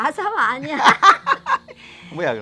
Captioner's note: both laughing